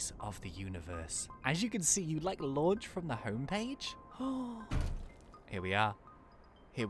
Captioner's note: gasps